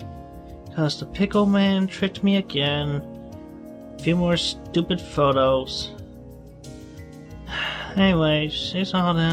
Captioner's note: sigh